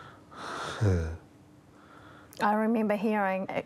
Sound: chuckles

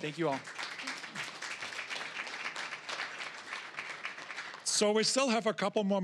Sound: applause

